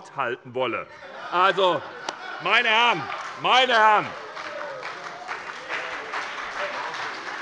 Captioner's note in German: Heiterkeit und Beifall bei der SPD